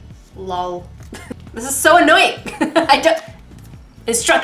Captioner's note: laughing